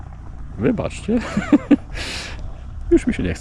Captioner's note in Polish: śmiech